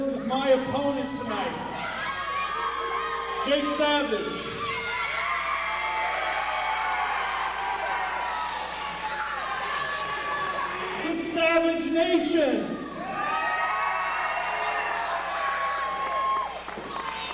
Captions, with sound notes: 'cause my opponent tonight, Jake Savage... (crowd cheers and yells) The Savage Nation! (crowd cheers and applauds)